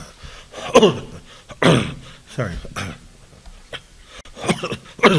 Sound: coughing

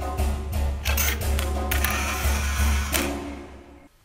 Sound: camera flash

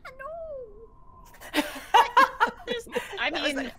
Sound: game Master laughs

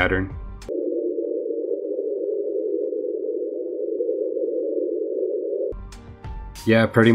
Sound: high-ish, droning, humming sound

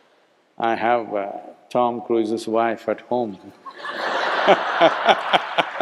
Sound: laughter

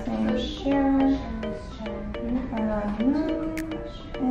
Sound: mumbles

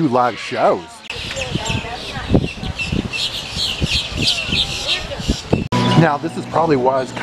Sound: birds chirping

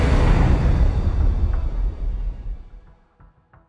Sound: logo whooshing

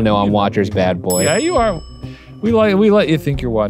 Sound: bell dings

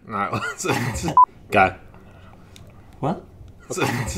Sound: tone beeps

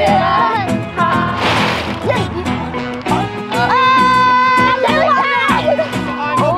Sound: campers shouting out each other's names

